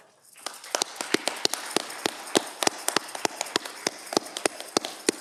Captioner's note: audience clapping